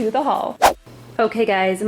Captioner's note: whooshing